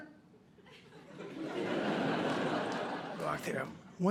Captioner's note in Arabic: ضحك